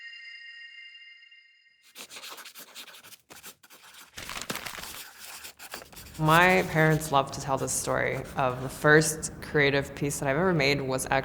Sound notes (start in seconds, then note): 1.8 pencil scratching; 1.9 paper crinkling